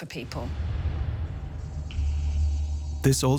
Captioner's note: eerie noises